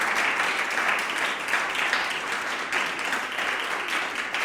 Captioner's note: applause